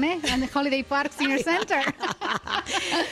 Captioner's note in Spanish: Risas